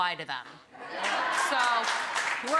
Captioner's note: audience laughing